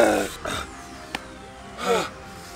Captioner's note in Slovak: masívne vypustenie vzduchu afterparty; ťap